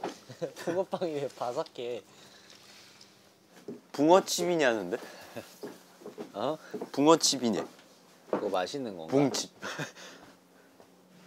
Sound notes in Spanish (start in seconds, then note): 5.1 Jeje